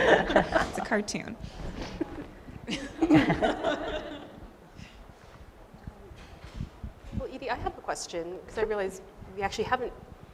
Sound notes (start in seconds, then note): 2.6 laughter